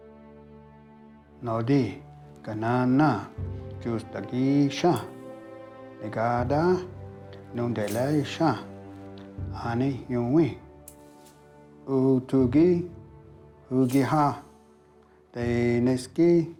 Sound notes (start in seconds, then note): 3.0 Ostenaco speaking Cherokee